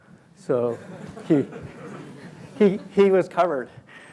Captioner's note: laughter